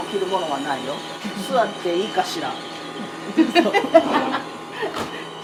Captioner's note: laughs